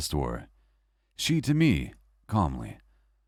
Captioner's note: calmly